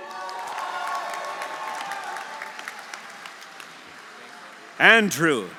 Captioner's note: audience applauding; audience cheering